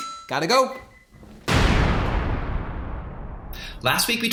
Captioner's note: explosion